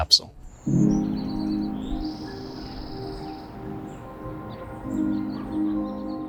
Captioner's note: birds chirping; peaceful music